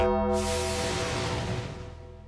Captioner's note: thunder rumbles; bell tolls